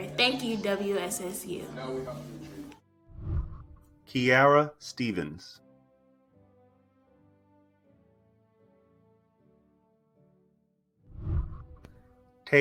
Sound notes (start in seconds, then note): 1.6 people chattering; 3.1 whooshing; 6.4 celebratory music; 11.1 whooshing